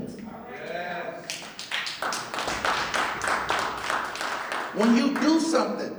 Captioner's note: clapping